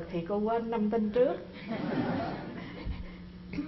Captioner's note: laugh